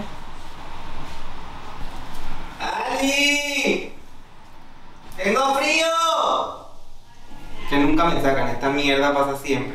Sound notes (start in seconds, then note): 3.1 shouting; 5.6 speaking in foreign language